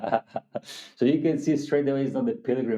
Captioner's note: laughing